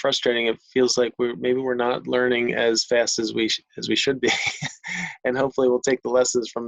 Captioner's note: chuckles